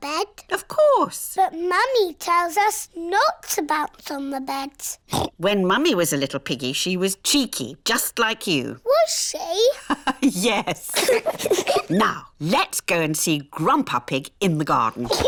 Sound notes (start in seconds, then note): 5.1 oinks; 9.5 laughs; 9.6 both giggle